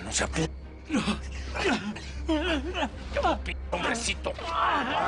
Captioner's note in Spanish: Quejidos